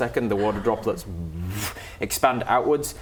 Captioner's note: whoosh